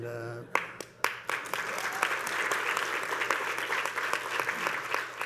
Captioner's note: panelists and audience clapping